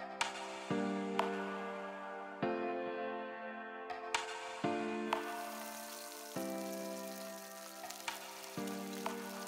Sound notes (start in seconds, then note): 5.1 food sizzling